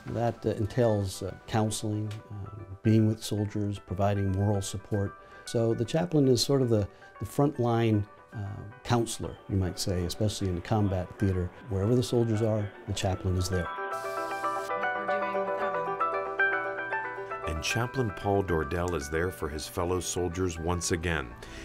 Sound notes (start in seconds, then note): 15.0 soft dramatic music; 15.0 woman speaks faintly